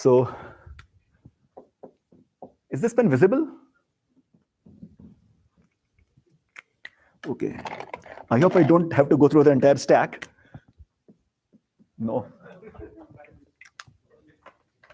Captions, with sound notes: So has this been visible? OK. I hope I don't have to go through the entire stack. No. [LAUGHTER]